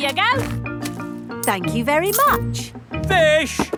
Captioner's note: none